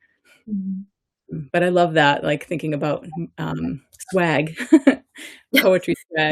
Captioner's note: laughs